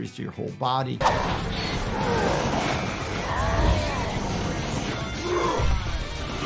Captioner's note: characters grunting and roaring